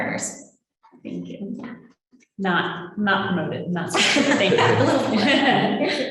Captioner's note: laughing